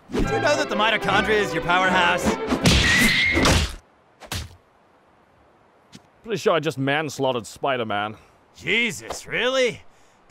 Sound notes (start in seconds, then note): 2.6 thud!; 3.4 splat